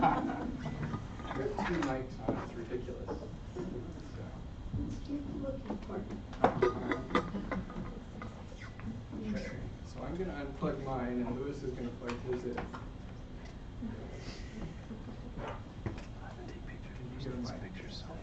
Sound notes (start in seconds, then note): 6.8 laughter